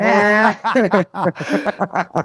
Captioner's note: laughing